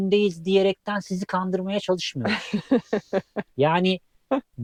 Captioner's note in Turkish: kahkaha